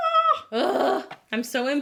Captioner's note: groans